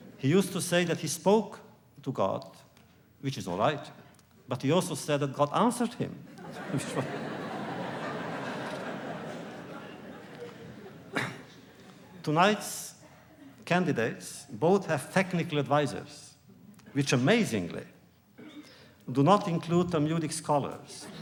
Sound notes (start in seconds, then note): 6.3 laughter; 6.4 laughs; 21.0 laughter